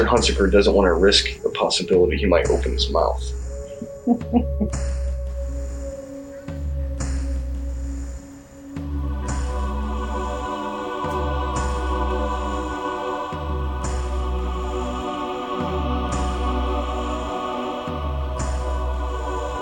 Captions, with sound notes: Mister Hunstacker doesn’t want to risk the possibility he might open his mouth. [Richie chuckles] [Ominous music continues]